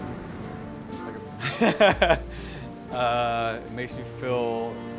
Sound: laughs

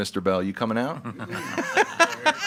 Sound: group laughing

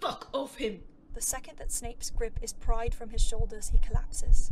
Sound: the heartbeat returns

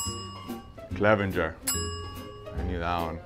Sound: bell dings

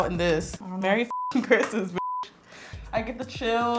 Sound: beep

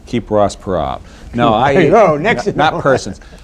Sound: laughter

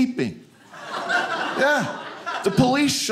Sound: audience laughing

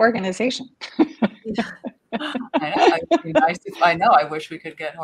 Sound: panelists chuckle

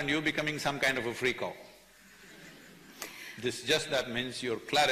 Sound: few laugh

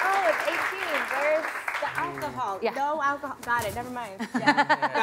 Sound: applause

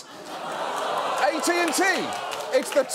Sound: audience cheering

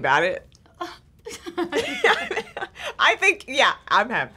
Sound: laughing

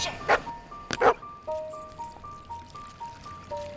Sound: barking

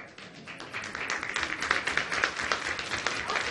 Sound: applause

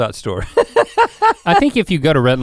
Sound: laughs

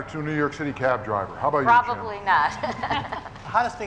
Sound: laughs

